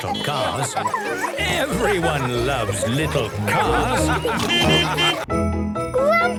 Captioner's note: beeping and laughing; laughter; beeping